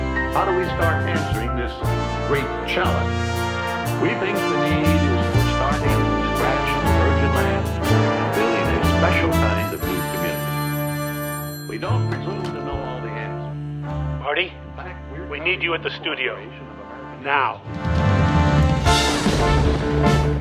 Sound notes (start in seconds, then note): 9.7 phone ringing while TV continues; 13.7 voice on phone; 17.7 thunder; 20.2 voice off screen